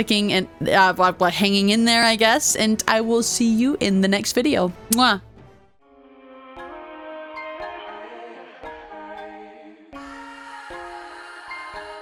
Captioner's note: kiss